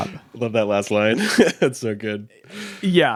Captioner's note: chuckles